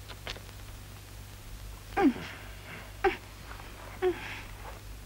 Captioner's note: crying out